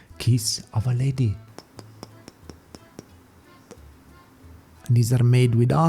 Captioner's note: kissing sound